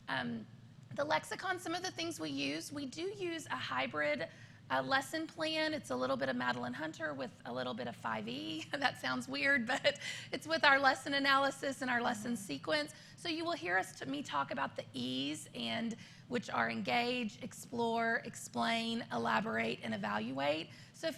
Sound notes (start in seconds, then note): 8.3 laughter